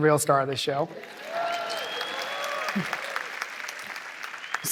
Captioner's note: cheering